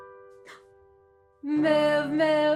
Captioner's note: lighthearted piano music; gasps